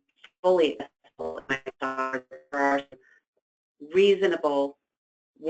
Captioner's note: static